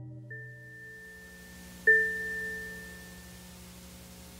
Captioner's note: game chimes